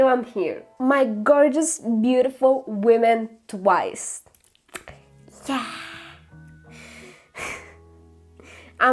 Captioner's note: sigh